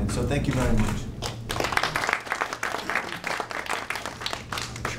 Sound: audience applauding

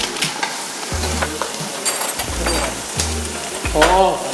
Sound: sipping

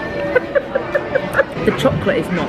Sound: laughing

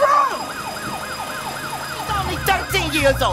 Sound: sirens

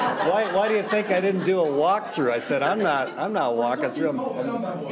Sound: laughter

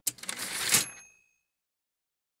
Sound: typewriter ding

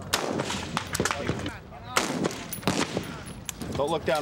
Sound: gun shot

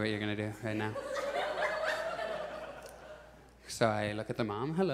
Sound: audience laughs

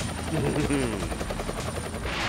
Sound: chuckles

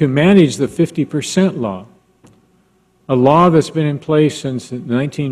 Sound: none

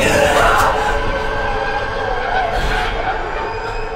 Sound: gasps sharply

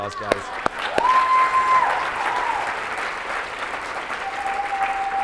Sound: applause

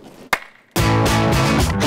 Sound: clap

